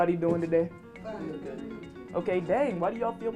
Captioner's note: audience mumbles